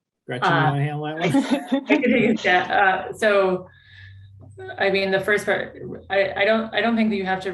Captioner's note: laughs